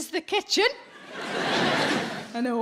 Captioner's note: crowd laughs